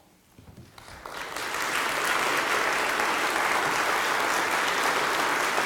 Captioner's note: applause